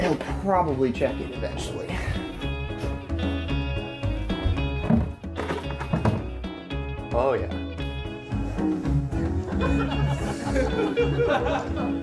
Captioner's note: audience laughter